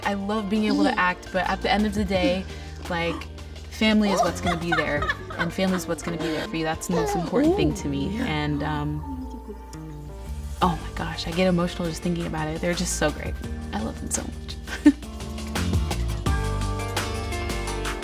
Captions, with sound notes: I love being able to act, but at the end of the day, (laughing) family is what's gonna be there and family is what's gonna be, that's the most important (baby cooing) thing to me. - Oh, yeah. - Oh my gosh, I get emotional just thinking about it. They're just so great. I love them so much! (mellow music)